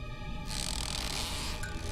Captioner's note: creaking